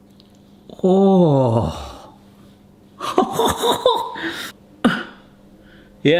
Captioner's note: laughs